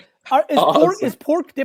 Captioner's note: laughs